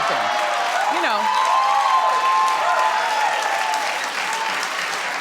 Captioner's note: audience cheering